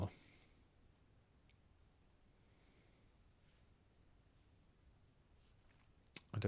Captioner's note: silence